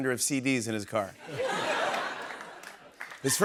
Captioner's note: laughter